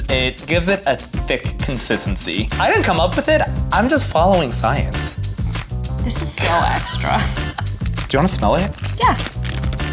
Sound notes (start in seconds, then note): 6.4 laughs